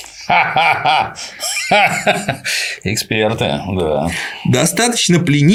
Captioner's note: laughs